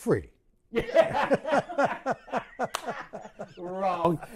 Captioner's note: laughter